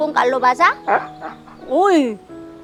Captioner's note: dogs whining